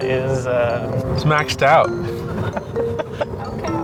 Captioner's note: laughs